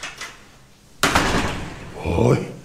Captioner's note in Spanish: Puerta cerrándose